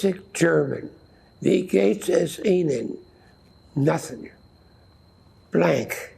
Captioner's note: german